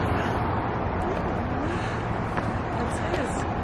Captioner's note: kids chattering